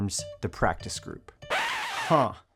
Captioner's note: record needle scratches